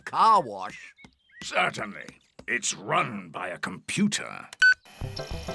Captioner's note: beeps